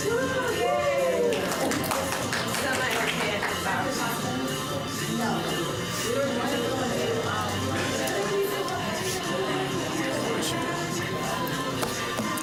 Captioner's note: cheering